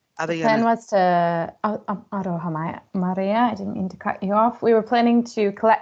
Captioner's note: non-english